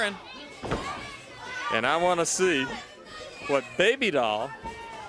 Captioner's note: crowd chatter